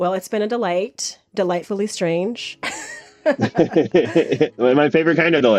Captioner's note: both laugh